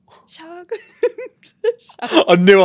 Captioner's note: both laugh